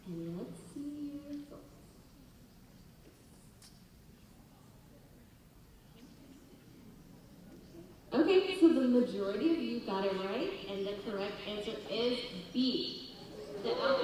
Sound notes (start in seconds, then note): 4.0 audience chatter; 13.2 audience laughter